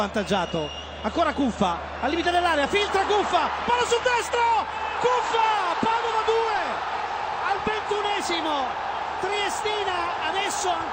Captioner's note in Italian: Applauso